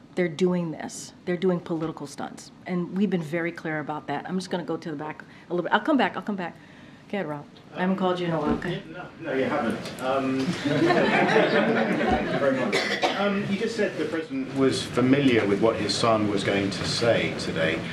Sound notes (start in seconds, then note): 10.4 laughter